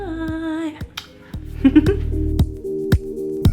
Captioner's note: laughs